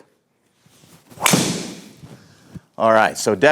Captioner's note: club hitting